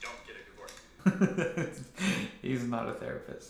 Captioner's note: laughs